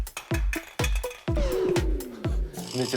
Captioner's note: sigh